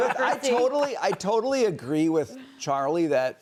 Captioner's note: laughter